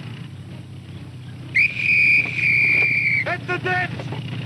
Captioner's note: blowing whistle